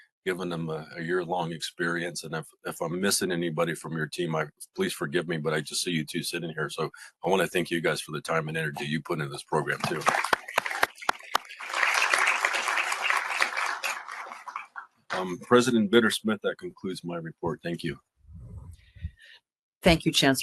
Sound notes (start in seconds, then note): 12.1 applause